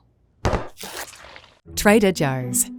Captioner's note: tub thudding